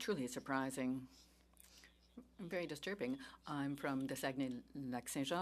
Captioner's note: speaking French